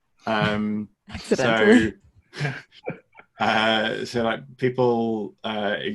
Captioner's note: laughing